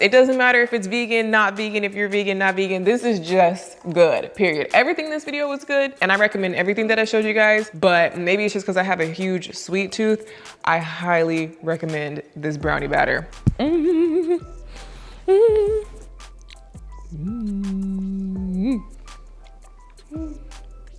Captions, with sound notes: It doesn't matter if it's vegan, not vegan, if you're vegan, not vegan, this is just good, period. Everything in this video was good and I recommend everything that I showed you guys, but maybe it's just cause I have a huge sweet tooth. I highly recommend this brownie batter. (humming)